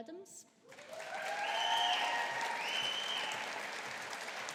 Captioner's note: audience applauding